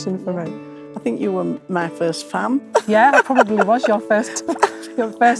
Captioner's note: laughter